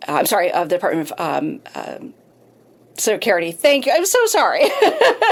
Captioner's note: laughs